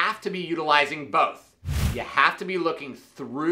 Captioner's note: whooshing